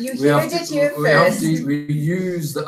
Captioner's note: laughter